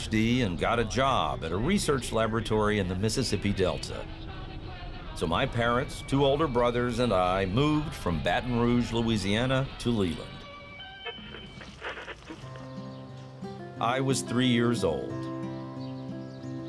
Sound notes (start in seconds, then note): 10.7 radio tuning